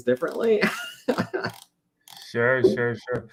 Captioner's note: laughs